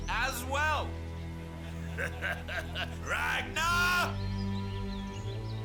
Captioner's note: laughing